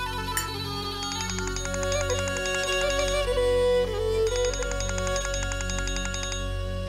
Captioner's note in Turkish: Telefon çalar